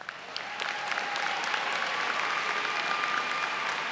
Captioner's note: applause